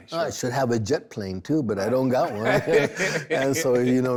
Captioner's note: laughs